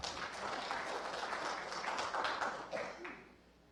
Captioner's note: applause